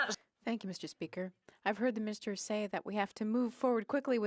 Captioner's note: speaking French